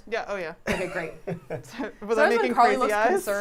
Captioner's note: chuckles